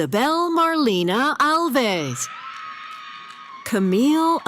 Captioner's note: cheering